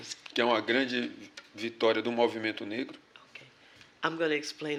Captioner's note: speaking portuguese